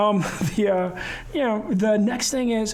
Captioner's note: chuckling